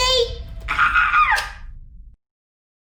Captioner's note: screeches excitedly